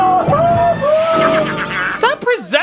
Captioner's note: The Green Goblin evil laughing and jumping